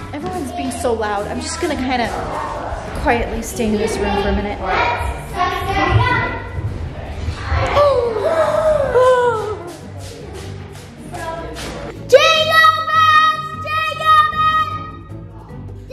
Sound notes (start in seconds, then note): 7.6 gasps; 11.9 singing